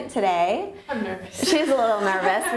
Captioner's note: laughs